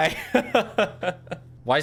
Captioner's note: laughs